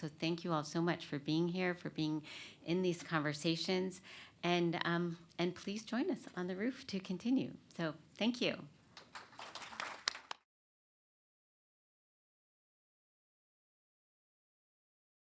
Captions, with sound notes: Thank you all so much for being here, for being in these conversations. Please join us on the roof to continue. Thank you. [applause]